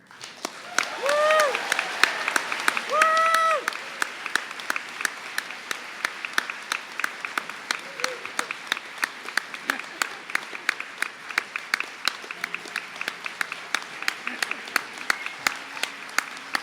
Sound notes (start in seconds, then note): 1.5 applause; 1.5 cheering